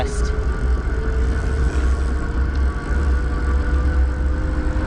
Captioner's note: eBike motor revving